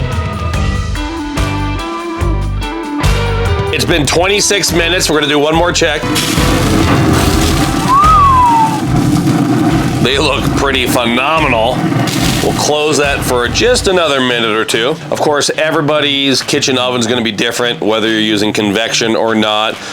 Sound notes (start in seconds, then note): 7.8 impressed whistle